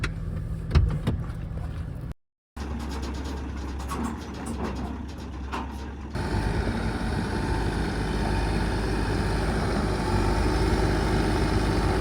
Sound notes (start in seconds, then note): 2.9 platform creaking; 6.1 excavator engine whirs